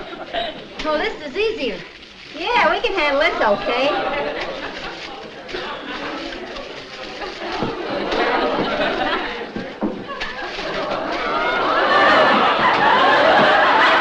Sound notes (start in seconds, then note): 4.7 laugh